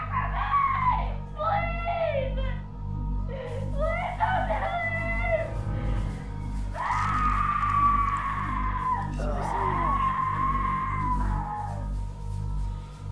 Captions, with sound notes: Get away from me! Please! Please don't do this. (screams) (group groans)